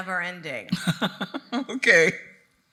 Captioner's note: laughing